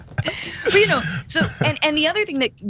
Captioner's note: laugh